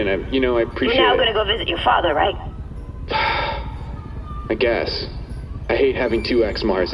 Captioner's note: sighs